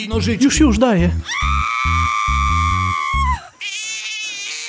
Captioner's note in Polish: krzyki; Płacz dziecka